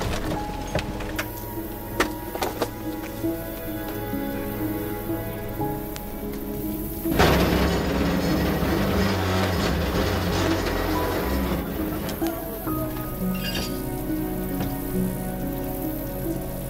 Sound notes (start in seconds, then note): 7.3 metal grating; 14.2 soft music